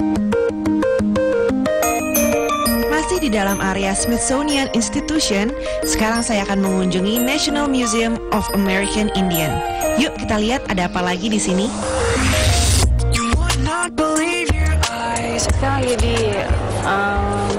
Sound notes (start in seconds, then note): 2.5 non-english speech; 15.5 non-english speech